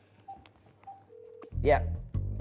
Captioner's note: phone ringing